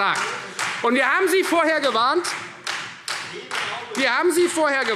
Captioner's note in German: Beifall : Sehenden Auges!